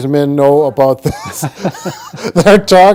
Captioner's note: laugh